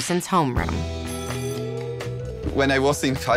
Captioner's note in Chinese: 學校鈴聲響起